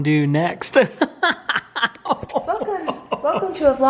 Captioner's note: laughing